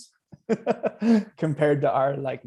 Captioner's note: laughing